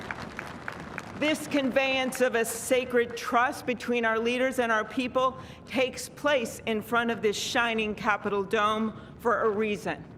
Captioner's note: cheers and applause